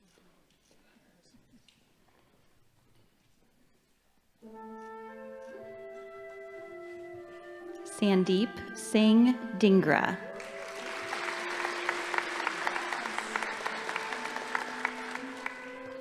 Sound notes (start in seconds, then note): 4.6 gentle orchestral music; 10.3 audience applauding